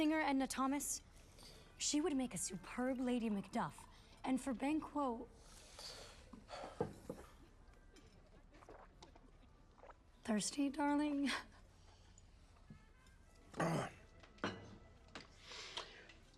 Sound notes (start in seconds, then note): 7.2 sighs; 13.5 clears throat